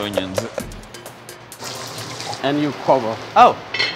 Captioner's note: onions sizzling